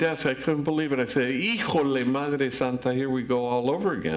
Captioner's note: speaks in foreign language